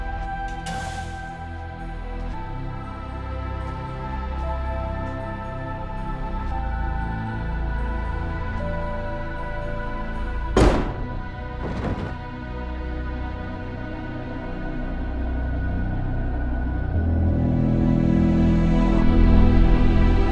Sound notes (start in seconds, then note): 10.6 gunshot cracks; 10.6 thudding